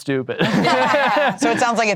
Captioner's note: all laughing